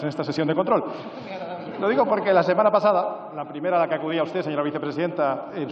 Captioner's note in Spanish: Risas